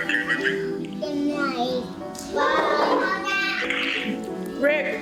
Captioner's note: son babbling